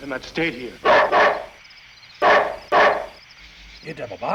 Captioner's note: barks